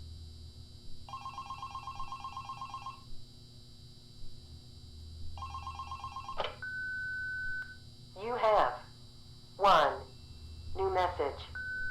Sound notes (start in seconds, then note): 1.5 phone ringing